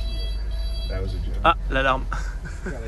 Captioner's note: alarm